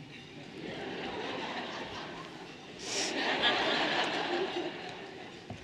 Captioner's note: everyone laughing lightly